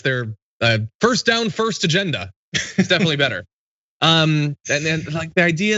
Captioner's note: laugh